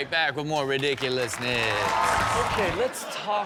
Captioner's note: audience cheering and clapping